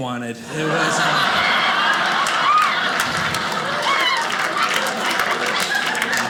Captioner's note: audience laughing